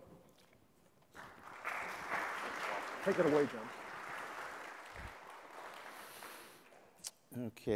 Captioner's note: applause